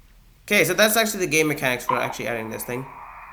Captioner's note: shrieks